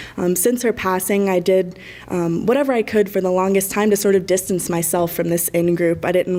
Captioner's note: none